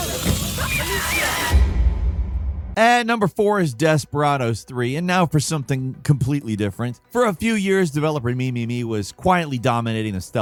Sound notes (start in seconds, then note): 0.0 character screaming